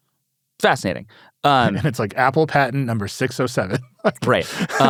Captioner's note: laughs